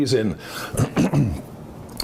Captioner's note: clears throat